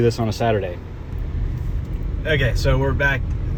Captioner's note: air conditioning humming